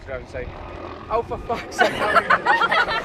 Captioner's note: helicopter roaring; all laughing